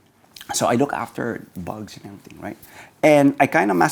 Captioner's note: murmurs